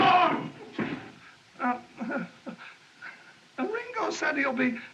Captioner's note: crowd Gasps, Shouts; door Squeaks; stammering